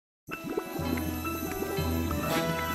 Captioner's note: quicksand bubbling